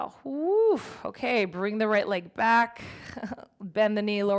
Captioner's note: laughs